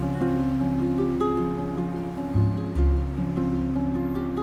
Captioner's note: street bustling